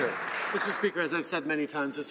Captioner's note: some Applause